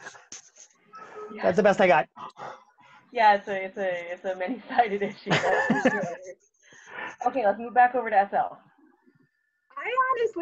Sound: laughs

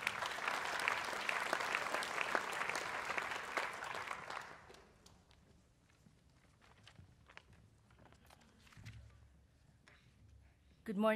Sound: applause

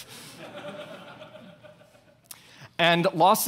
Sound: audience laughs

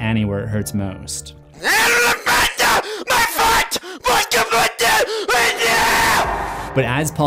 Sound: screaming

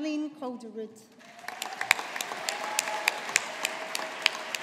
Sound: audience applauding

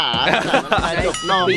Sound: laughs

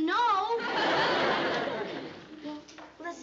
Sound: laughter

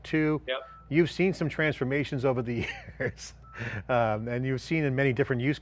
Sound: laughs

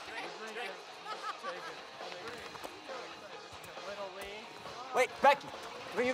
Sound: counselor laughing

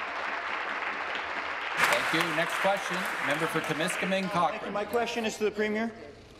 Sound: applause

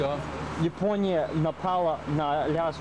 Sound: russian speech

